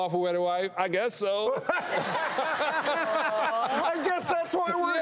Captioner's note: laughing